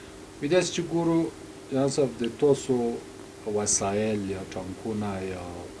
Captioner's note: translator speaking in a foreign language